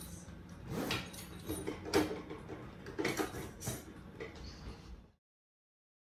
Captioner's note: zipping and clattering and general 'looking for something' noise